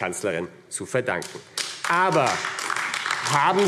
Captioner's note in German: Beifall AfD